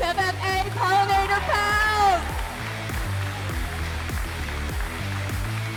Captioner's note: upbeat music; audience applauds